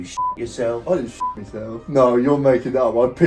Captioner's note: beep